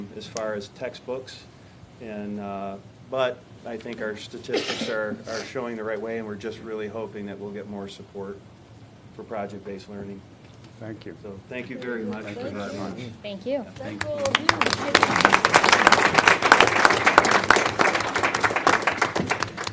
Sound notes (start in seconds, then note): 13.8 applause